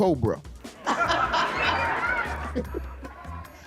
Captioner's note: laughing